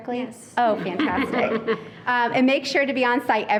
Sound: people laughing

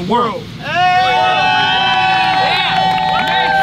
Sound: audience applauds and cheers

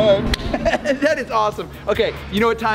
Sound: laughs

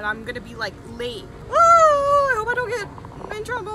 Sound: squeaking

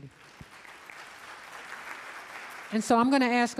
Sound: audience applauding

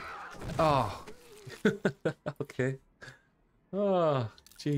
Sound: laughs

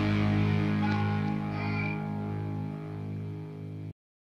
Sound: distorted voice yelps

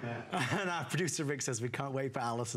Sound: laughter

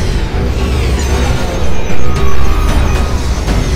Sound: electronic whirring

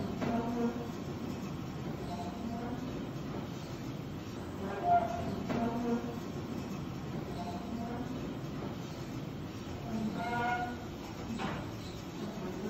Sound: sounds of a hospital

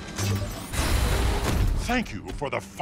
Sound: none

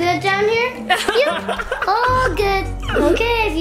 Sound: family laughing

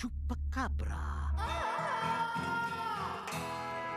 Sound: wailing

